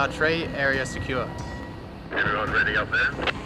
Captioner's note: on walkie-talkie